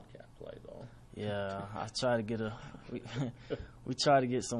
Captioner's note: laughter